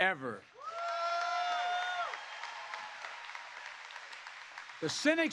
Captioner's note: applause